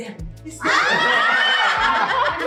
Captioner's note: laughs